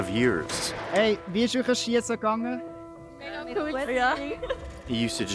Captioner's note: speaking foreign language